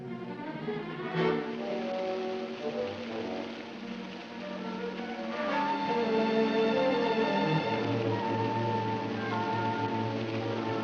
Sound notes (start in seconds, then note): 1.3 running water; 5.4 dramatic music